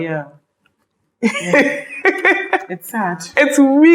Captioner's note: laughs